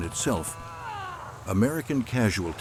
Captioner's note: man groaning